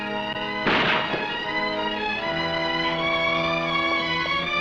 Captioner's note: gunshots blasting